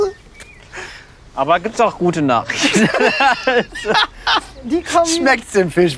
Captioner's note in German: lacht